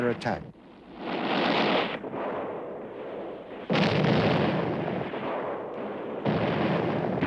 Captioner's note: explosions; gunfire